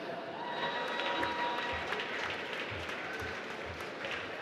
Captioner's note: applause